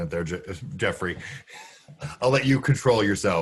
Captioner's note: laughing